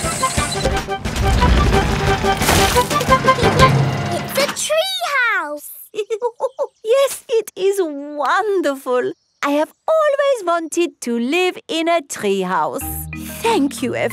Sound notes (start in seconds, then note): 5.9 laughs